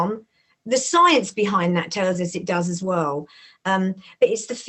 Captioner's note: none